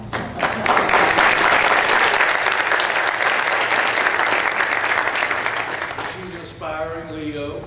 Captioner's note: applause